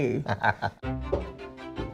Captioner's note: laughs